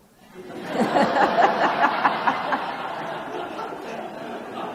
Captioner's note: audience laughs